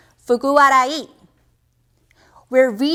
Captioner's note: speaking in Japanese language